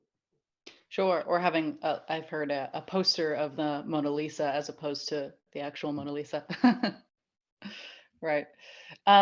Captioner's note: laughs